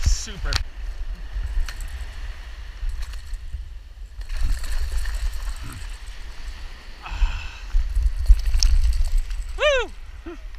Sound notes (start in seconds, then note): 4.2 waves crashing